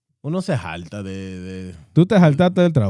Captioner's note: speaking Spanish